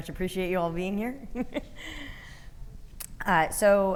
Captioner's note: chuckling